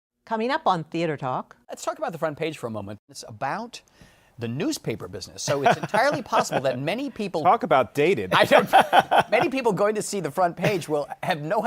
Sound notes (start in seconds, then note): 8.3 laughs